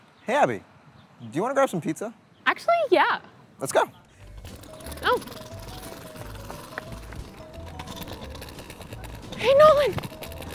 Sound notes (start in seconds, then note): 6.0 comedic music; 8.0 wheels clacking on pavement